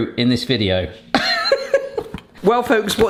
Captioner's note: laughs